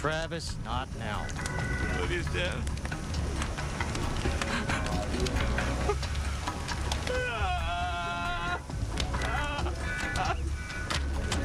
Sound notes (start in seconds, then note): 4.4 sobs; 7.0 groans